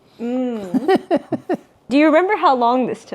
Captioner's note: laughs